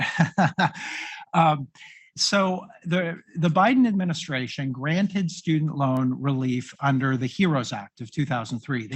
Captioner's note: chuckling